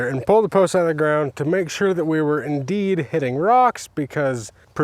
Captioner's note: none